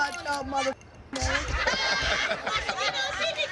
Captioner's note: laughter